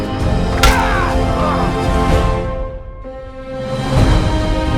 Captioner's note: beeping; raider yelping